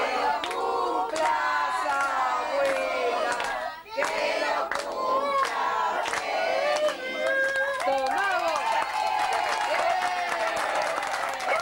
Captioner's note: applause